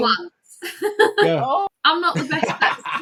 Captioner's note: laughing